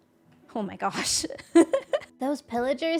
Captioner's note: laughs